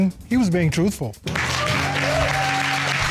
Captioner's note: cheers and applause